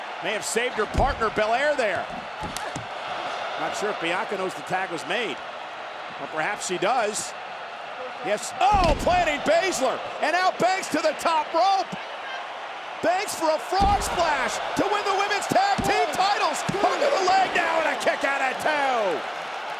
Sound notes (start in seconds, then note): 12.1 crowd cheers